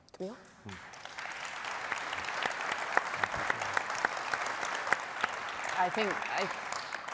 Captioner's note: audience applauding